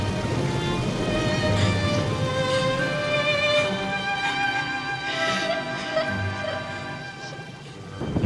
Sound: sobbing

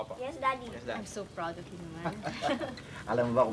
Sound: laughter

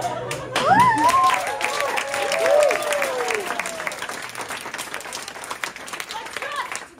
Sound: laughter, applause

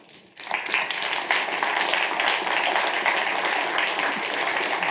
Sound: audience applauds

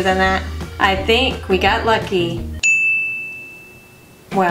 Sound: ding

